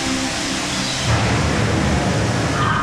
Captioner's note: thunder; cackles